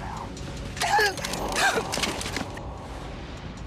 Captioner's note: woman yelling and struggling